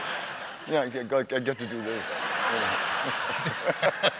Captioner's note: laughter